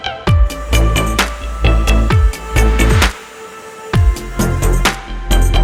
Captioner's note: drill noise